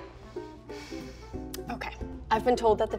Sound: sighs

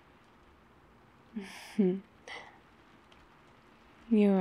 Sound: laughs

